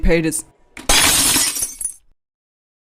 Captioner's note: glass shatters and room goes silent